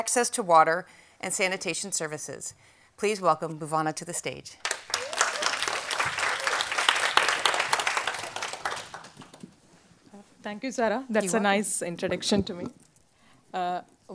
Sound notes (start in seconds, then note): 4.6 audience Applause